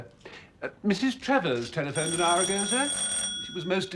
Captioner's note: doorbell